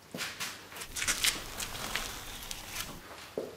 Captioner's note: smacking of the sound